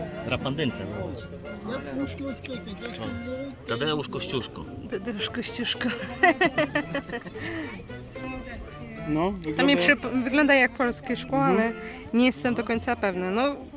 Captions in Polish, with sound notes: -Rafandynka, zobacz... -O, TADEUSZ KOSCIUSZKO -Tadeusz kosciuszko.. [śmiech] wygląda jak polskie szkło ale nie jestem co do tego pewna